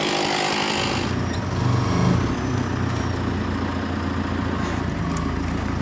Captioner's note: vehicle engine rumbling